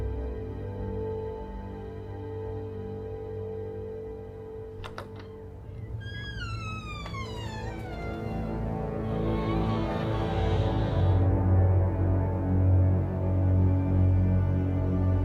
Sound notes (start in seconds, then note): 5.7 door screeching; 6.5 ominous foreboding music